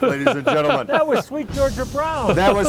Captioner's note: laughing